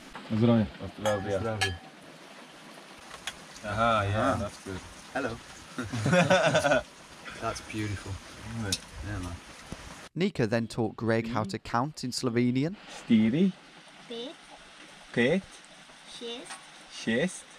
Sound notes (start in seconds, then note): 0.3 speaking in a foreign language; 1.0 glasses chinking; 5.8 laughing; 13.3 speaking in a foreign language